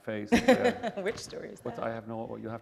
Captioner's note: laughter